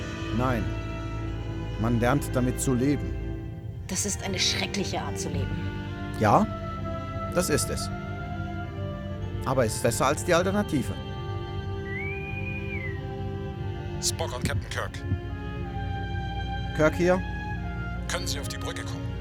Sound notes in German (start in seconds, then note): 11.8 Interkomm pfeift